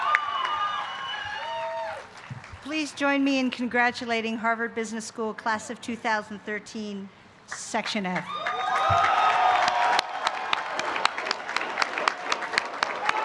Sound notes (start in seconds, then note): 8.1 applause